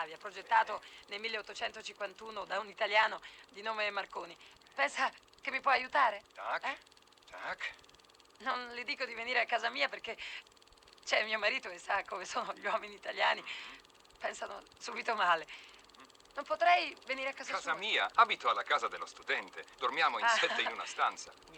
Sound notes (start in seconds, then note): 6.5 answers in polish